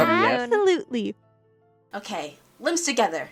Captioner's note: various noises of agreement lol